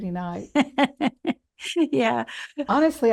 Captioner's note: laughs